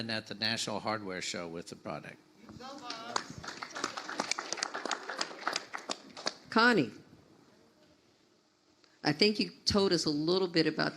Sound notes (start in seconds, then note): 2.7 audience applauds